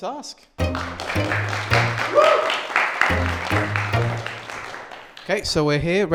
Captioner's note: applause